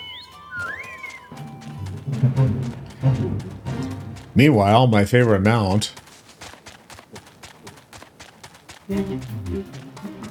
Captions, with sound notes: (squeals) Meanwhile, my favorite amount. (upbeat music)